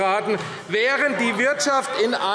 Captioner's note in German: Zurufe - Unruhe